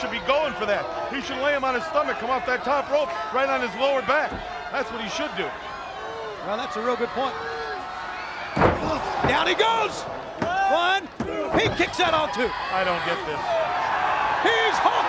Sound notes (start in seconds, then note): 8.9 crowd chatter